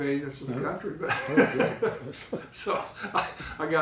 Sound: laughing

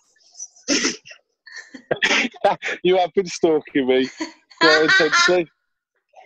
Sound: laughter

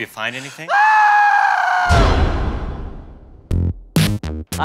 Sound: screaming

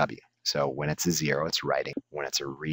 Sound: tape Skips

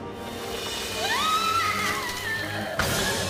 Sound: agonizing scream

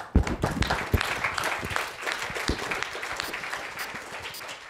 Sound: applause

